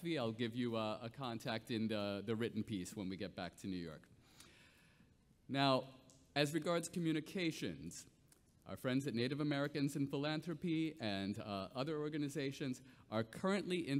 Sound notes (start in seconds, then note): none